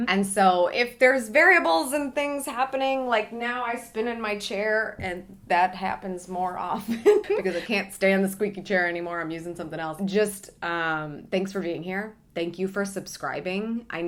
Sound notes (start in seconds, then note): 6.9 laughs